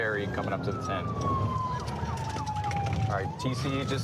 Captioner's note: sirens